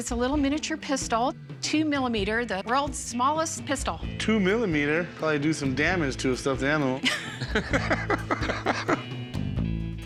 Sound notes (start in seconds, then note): 7.0 laughter